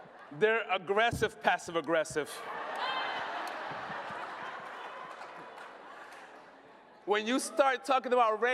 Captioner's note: laughter; laughter